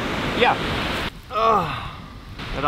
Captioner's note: old man grunt